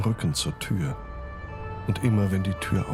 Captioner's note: siren blaring